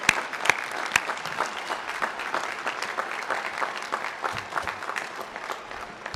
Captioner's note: applause